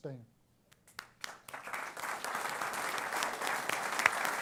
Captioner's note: applause